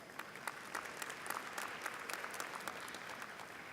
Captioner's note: applause